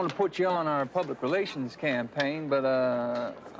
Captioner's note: none